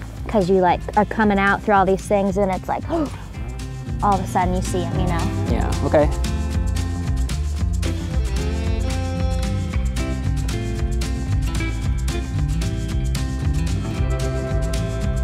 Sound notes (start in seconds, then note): 3.0 gasps; 7.0 upbeat music